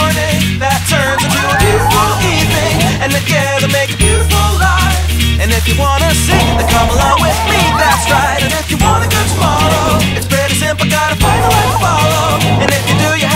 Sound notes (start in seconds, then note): 0.6 students shouting; 5.8 students laughing and shouting